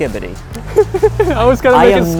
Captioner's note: laughs